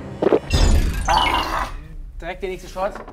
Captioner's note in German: Schlucken, angeekelter Laut